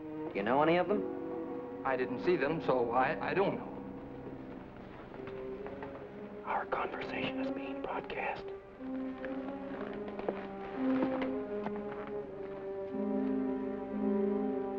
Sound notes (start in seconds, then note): 6.8 whispering; 9.9 tense music